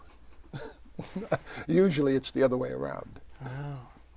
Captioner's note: laughs